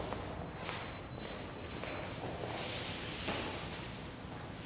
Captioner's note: pitch whirring